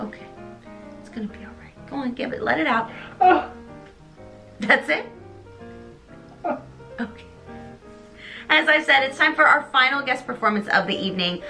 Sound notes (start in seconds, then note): 6.3 continues to cry; 7.2 big sigh